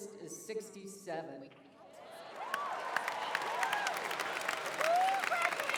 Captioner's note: applause, cheering